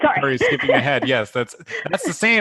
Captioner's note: laughter